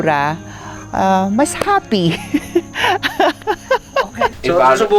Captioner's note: laughs